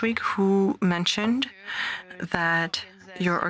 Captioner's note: speaking French